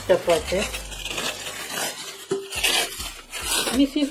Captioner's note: sound of cling wrap torn away